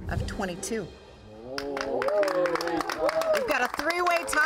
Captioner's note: group cheers and applauds